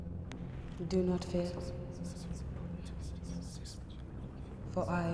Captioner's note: whispering voices